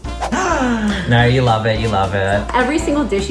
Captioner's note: gasps